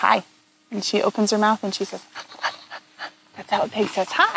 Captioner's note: pants